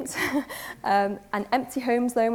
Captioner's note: laughs